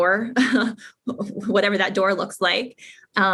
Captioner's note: laugh